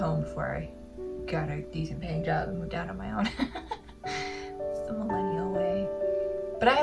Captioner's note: laugh